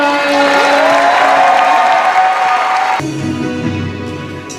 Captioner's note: applause